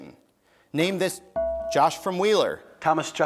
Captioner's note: bell rings